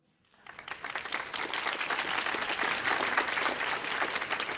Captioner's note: audience applauding